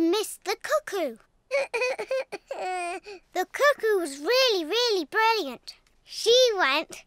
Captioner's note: sobs